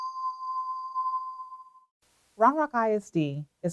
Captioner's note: bell tone